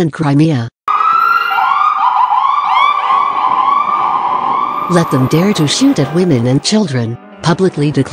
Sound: Ukrainian

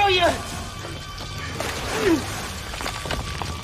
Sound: water splashing

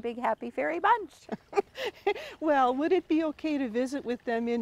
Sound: laughs

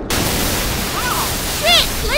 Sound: thud

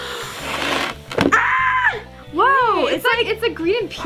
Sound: both exclaim

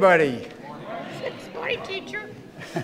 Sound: audience responds

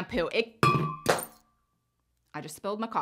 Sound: object clanks

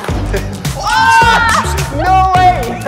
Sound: cheers

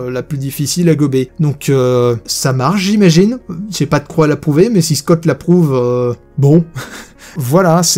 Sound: laughs

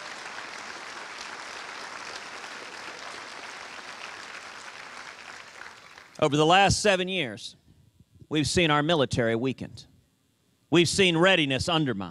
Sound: cheers and applause

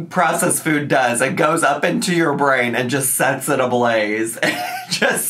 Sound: laughs

